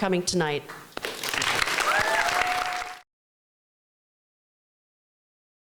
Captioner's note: applause